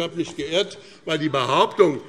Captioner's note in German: Zurufe SPD